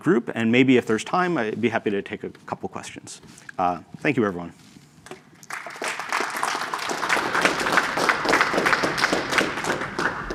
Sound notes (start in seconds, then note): 5.4 applause